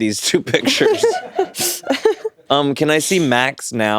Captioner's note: laughing